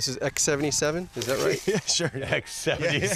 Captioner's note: laughing